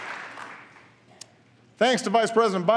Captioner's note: applause